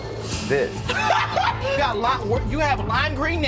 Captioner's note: laughing